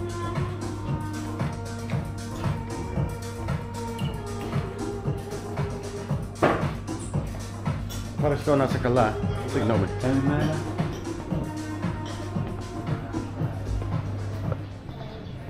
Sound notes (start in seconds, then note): 5.4 upbeat music; 6.6 door slams; 8.0 speaking in foreign language